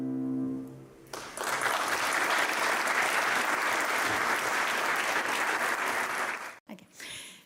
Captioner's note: applause